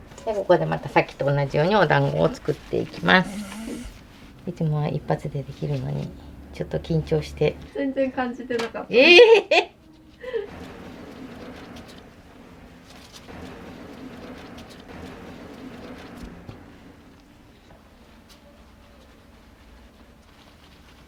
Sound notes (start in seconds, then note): 7.2 laughs; 8.7 laughs; 9.0 laughter